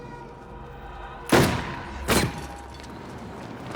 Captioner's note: firing